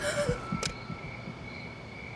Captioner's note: A young girl gasps